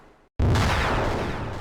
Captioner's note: explosion